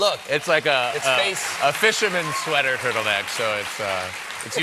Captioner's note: cheers and applause